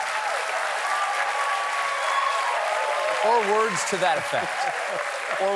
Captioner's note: cheers and applause